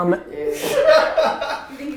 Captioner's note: group laughing